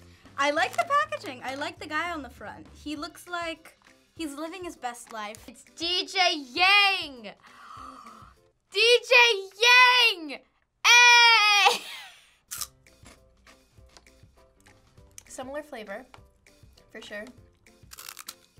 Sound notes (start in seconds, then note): 7.4 gasp